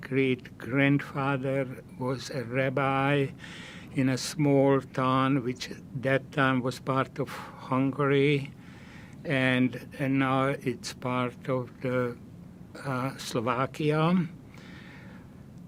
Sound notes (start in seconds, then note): none